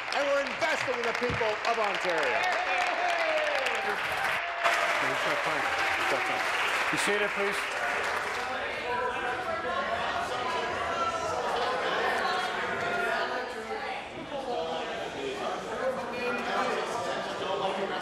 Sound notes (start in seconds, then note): 0.0 applause; 5.8 applause; 14.6 conversation din